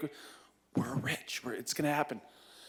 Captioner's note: whispering